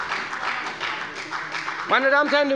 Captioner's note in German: Beifall bei der FDP